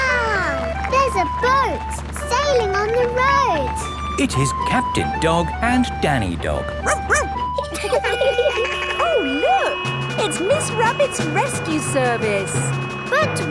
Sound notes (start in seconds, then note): 6.8 barks; 7.9 laughing; 7.9 sirens sounding